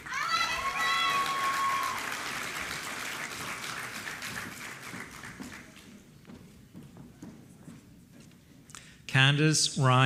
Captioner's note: applause